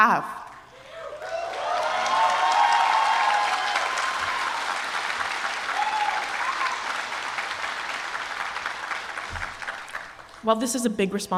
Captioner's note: applause